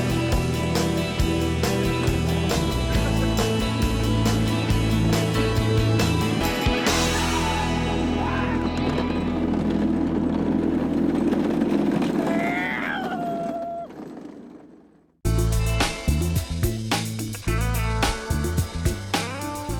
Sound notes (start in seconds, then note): 1.8 laughing; 12.0 whooping